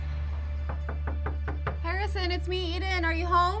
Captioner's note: Eden knocking